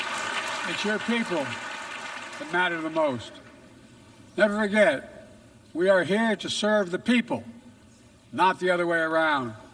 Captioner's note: applause